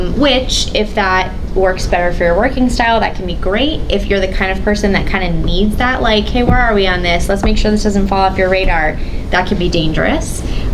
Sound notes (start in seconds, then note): none